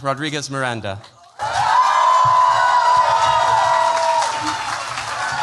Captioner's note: cheers, applause